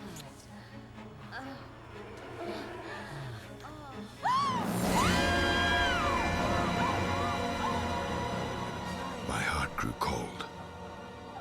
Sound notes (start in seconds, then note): 1.3 woman moaning; 4.2 gasps then screams